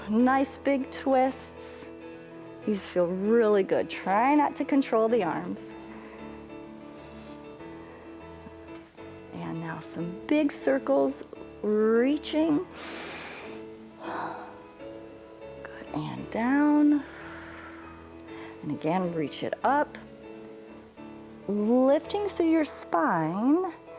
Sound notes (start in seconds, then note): 12.7 inhales and exhales; 17.0 exhales